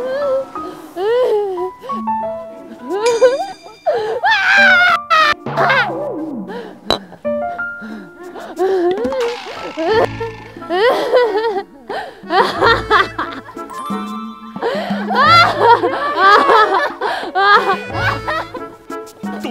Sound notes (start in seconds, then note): 8.8 the bottles are piling up with weird whimpering